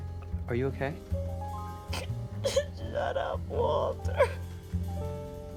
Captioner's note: sobs, sniffles